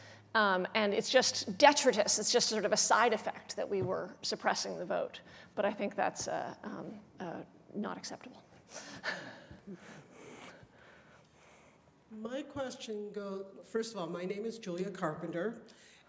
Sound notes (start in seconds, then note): 8.8 laughs